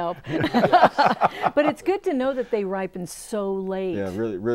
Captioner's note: laughing